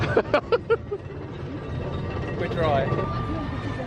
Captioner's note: laughs